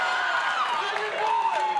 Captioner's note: cheers & applause